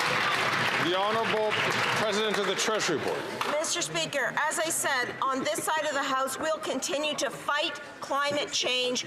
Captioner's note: some Applause